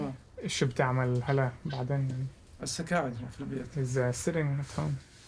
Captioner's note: speaking foreign language